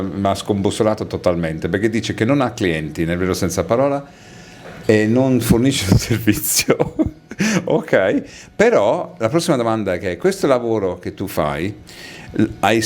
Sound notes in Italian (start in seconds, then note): 6.5 risate